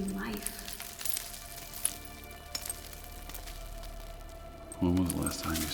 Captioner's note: rocks clattering